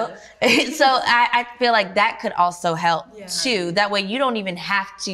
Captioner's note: laughs